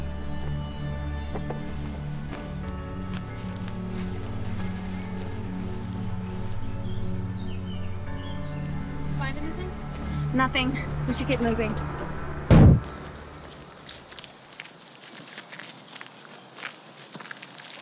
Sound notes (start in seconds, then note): 12.4 trunk slams